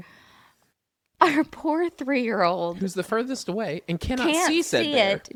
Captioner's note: laughs